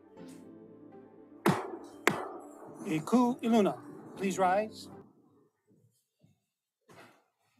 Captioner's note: gavel bangs twice